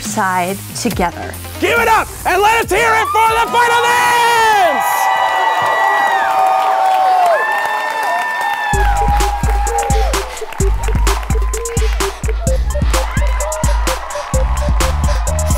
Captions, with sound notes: - Give it up and let's hear it from the finalists. (crowd cheering) (pop music)